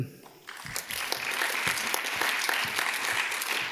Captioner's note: audience claps